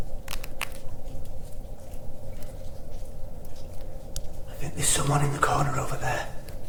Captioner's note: bones creaking